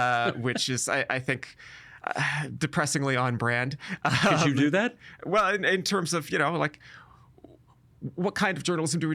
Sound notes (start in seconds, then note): 4.0 chuckling